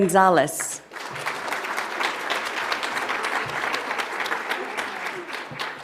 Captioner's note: audience applauds